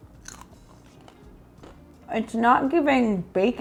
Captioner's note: crunching bacon